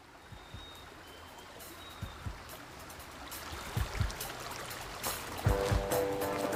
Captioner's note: birds singing; stream gurgling; upbeat music